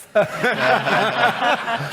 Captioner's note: chuckles